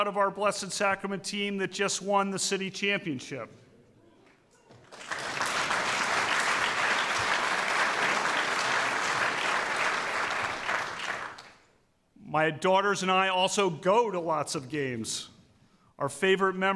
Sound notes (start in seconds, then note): 4.7 applause